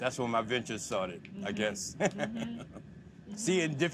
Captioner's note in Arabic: يضحك